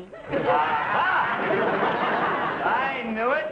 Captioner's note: audience laughing